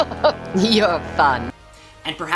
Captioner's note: gasp